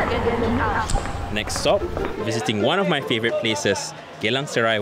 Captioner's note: voiceover